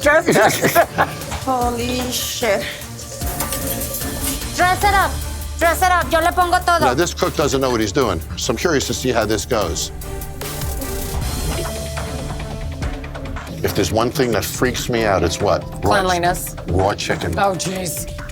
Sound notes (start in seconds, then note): 0.0 laughs; 5.7 speaking spanish; 11.6 upbeat music